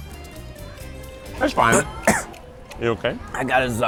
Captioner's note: coughs